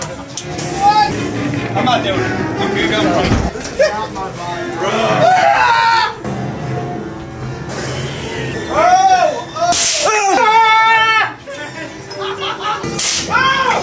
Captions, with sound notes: I'm not doing it. You can go. (man screams) Oh!